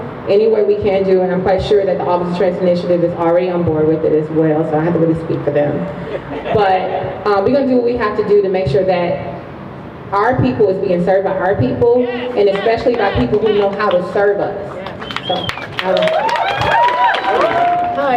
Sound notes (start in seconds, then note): 6.0 crowd laughs; 14.6 crowd cheers